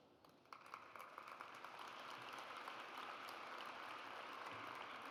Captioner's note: audience applauds